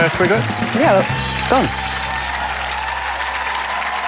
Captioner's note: applause